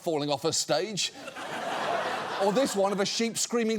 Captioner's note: audience laughs